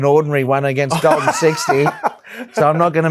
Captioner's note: laughs